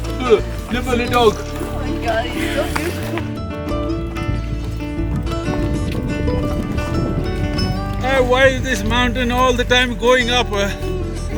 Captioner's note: laughter